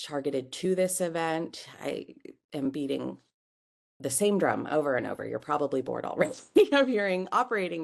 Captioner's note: laugh